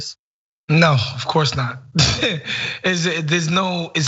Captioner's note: laugh